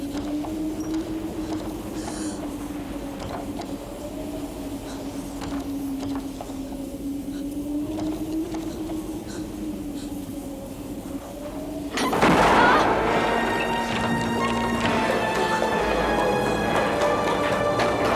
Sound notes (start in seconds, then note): 12.4 Catherine yelping; 14.2 dramatic music